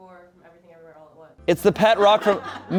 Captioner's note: audience laughing